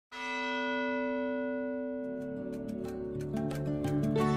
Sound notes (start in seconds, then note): 0.1 bell Toll